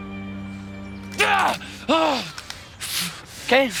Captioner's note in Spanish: Gritos